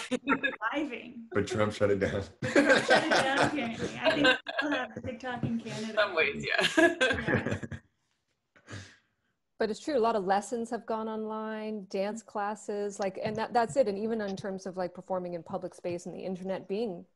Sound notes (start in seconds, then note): 3.8 laughter; 9.3 chuckles